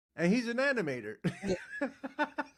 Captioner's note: laughing